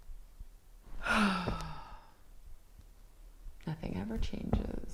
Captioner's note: Leona sighs